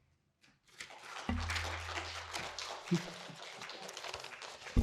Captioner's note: audience applauding